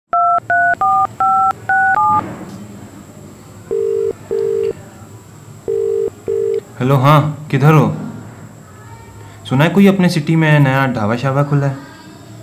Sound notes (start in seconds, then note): 0.1 keypad Tone; 3.7 phone Ringing